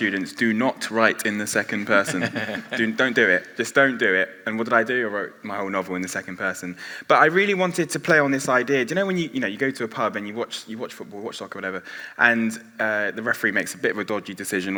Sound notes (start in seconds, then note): 2.0 others laughing